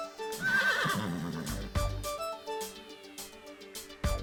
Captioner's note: horse neighing